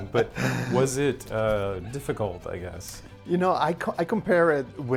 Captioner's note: laughs